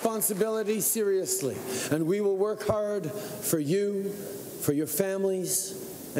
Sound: cheering and Applause

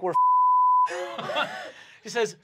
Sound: beep; laughing

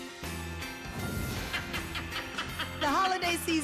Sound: laughing

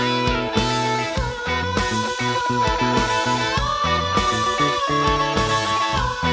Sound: more ghost sounds

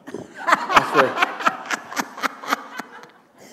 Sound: laughter

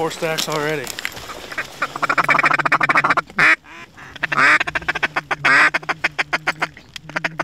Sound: duck Calling

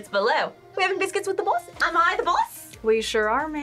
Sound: "English" accent

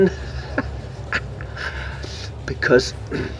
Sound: he laughs then winces

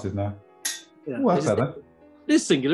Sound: loud clink

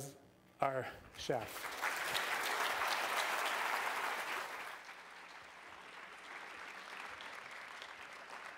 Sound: applause

